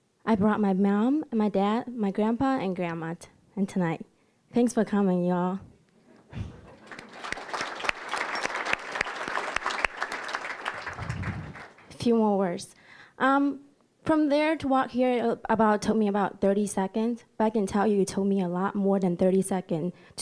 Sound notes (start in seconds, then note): 6.3 audience laughing; 6.6 applause